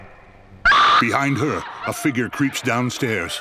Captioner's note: screaming & sobbing